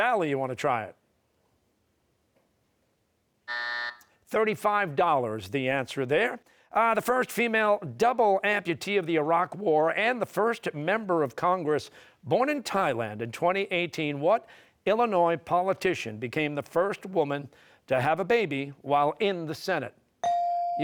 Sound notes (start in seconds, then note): 3.4 buzzer